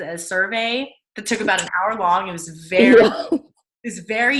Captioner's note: laughing